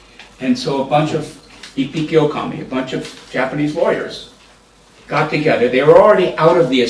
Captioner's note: japanese